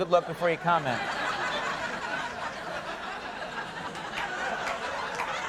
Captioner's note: audience laughing